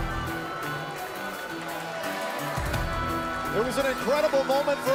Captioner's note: crowd cheering